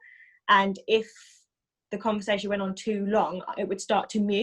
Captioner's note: none